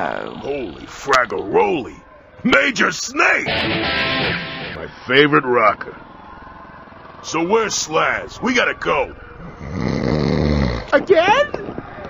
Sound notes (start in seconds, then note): 3.4 electric guitar riff; 9.5 snores